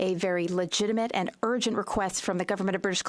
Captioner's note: speaking French